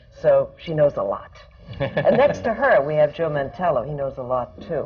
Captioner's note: laughter